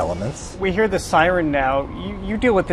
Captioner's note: siren bleeping in distance